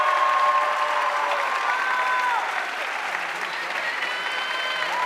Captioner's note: audience cheering and applauding